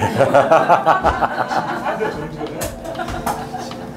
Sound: laugh broadly

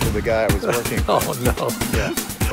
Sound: laughing

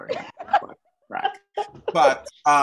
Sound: laughing

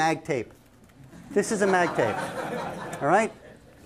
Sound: laughter

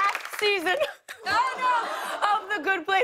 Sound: mocks crying

